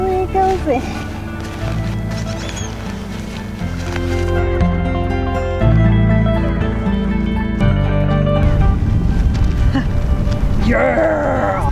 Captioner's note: grunts